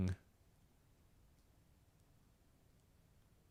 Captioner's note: silence